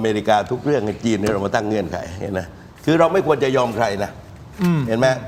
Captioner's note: clears throat